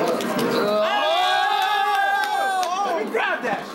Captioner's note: yelling